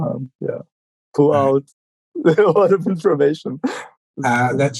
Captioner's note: laughing